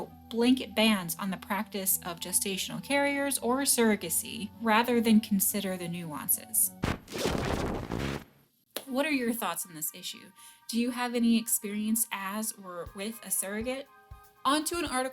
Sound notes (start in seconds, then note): 6.8 distortion noises